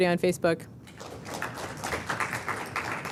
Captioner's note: applause